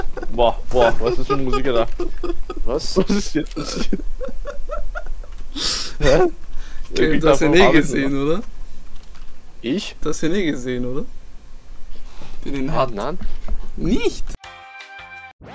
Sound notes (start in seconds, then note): 3.5 laugh